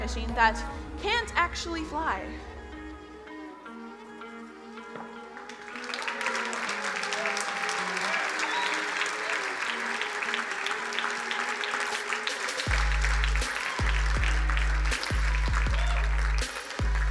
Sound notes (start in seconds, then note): 2.3 ambient music; 5.9 crowd applauding; 14.4 upbeat music